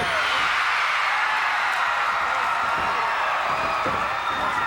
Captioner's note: crowd cheers